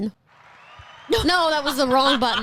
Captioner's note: crowd cheering